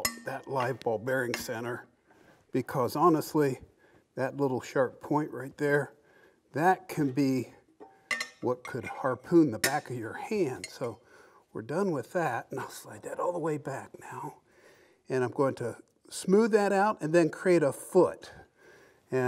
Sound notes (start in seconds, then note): none